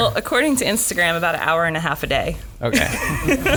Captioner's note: laughs